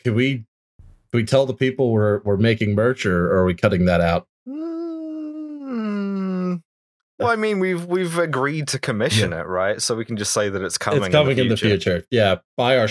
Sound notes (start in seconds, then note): 5.8 thinking noises